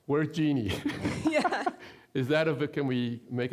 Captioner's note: laughing